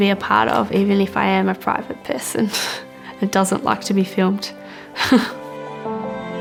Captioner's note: chuckle